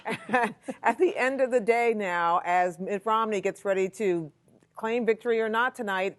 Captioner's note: laughter